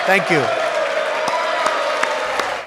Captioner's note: applause